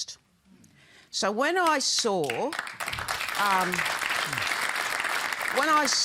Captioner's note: applause